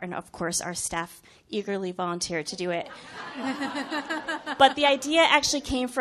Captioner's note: chuckles